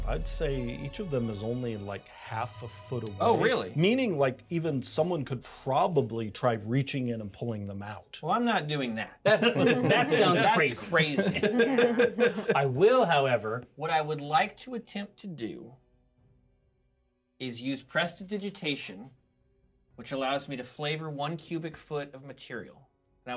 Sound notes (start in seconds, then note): 9.2 speaker laughs